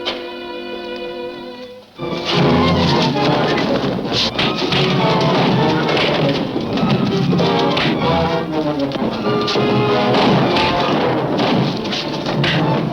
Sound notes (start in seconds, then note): 2.1 fists thudding; 2.5 dramatic music